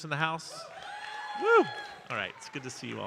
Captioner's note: audience cheering